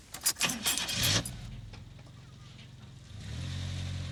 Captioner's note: engine starts